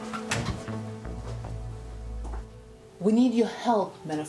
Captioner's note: door closes